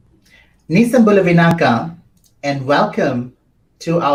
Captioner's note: speaks foreign language